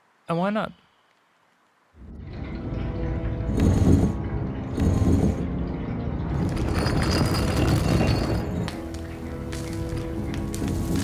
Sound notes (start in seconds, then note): 3.5 stone slab grinding; 8.6 water dripping